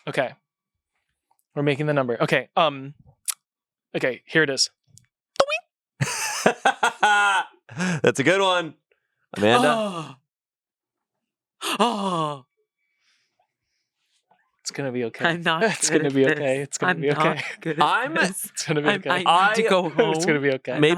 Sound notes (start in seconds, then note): 5.4 makes playful sound effect; 6.0 laughs; 11.6 gasps